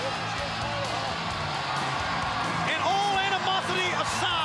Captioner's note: crowd cheering